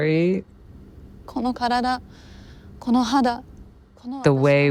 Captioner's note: speaks Japanese